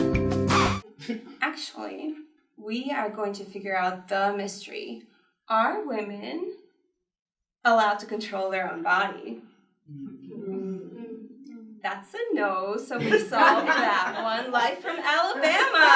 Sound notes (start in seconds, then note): 0.5 record scratch; 9.9 groaning